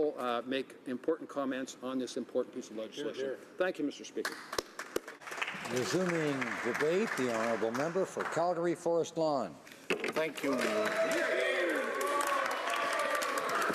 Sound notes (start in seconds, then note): 10.3 some Applause